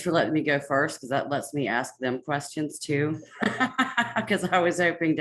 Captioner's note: laughs